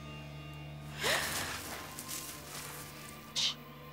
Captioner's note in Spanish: gasping